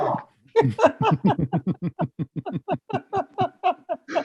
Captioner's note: all laugh